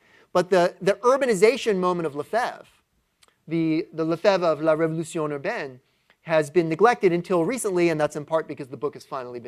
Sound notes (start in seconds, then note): 4.3 french